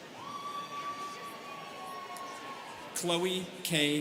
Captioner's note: students cheering